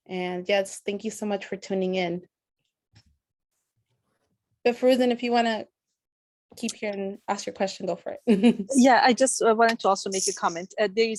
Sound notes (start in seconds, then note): 8.2 laughter